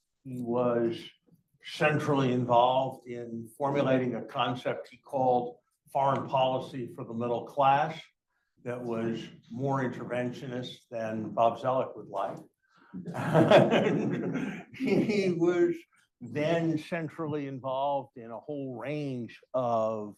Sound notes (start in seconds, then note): 13.0 laughing